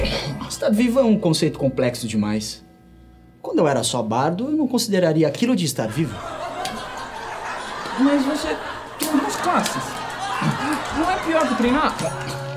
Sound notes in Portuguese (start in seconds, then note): 5.9 risadas